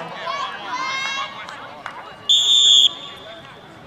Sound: whistle blows

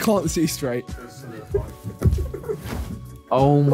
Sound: giggling

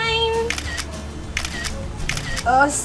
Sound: camera repeatedly clicks

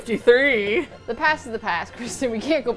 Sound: laughs

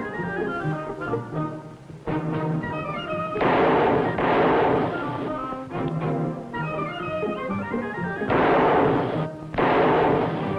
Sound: gunshots

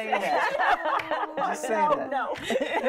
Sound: women laughing

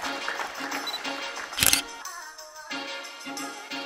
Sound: camera clicks; light music

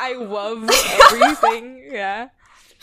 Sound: both laugh

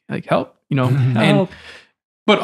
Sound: friars chuckle

